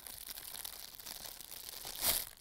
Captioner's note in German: Knistern